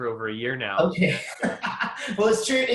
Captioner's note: laughing